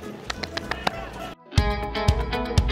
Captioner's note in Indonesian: Tepuk Tangan